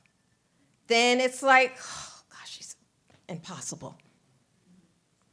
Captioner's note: whispers